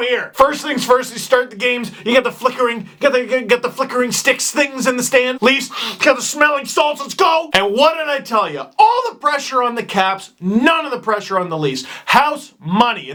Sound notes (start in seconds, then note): 5.7 sniffs